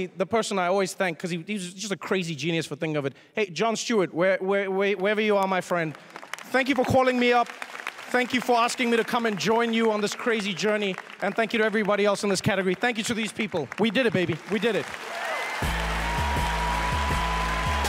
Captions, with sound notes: the person I always thank-- because he's just a crazy genius for thinking of it-- hey, Jon Stewart, wherever you are, my friend, thank you for calling me up. Thank you for asking me to come and join you on this crazy journey. And thank you to everybody else in this category. Thank you to these people. We did it, baby. We did it. [CHEERS AND APPLAUSE] [UPBEAT MUSIC]